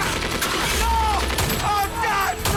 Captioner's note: truck engine revs